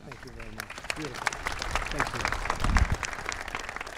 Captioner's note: applause